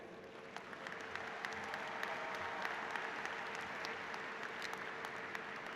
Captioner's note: applause